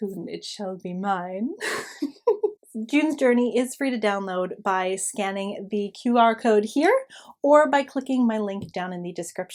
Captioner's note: giggle